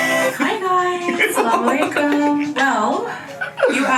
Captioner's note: laughs